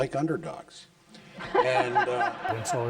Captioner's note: laughter